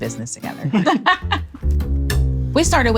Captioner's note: laughs